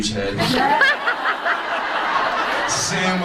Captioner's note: audience laughs